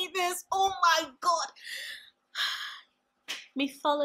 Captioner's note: sigh